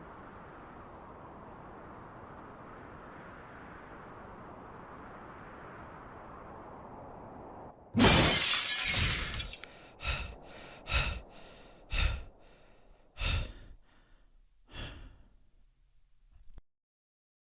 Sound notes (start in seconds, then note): 8.0 CRASH! The mirror shatters deafeningly and thuds loudly against the wall; 9.5 Preston breathes heavily; 14.1 his panting gradually slows to a halt